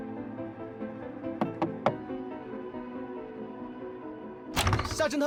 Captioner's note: bang bang